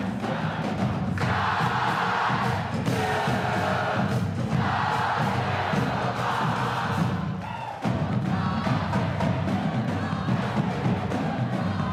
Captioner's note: applause